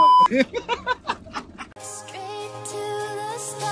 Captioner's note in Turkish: Kahkaha